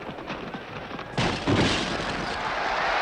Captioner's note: crash